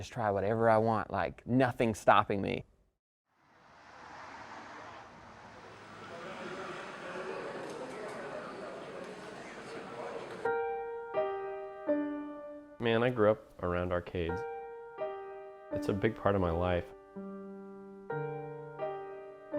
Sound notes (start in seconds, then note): 3.4 cars passing; 9.4 dramatic music playing; 17.2 dramatic music playing